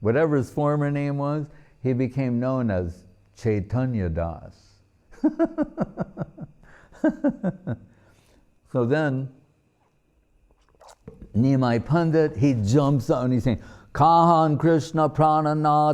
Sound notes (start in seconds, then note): 5.6 laughing